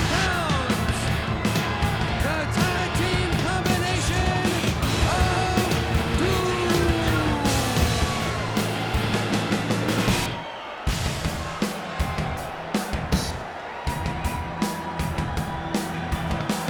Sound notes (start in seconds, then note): 8.7 audience cheers; 12.5 upbeat pensive music continues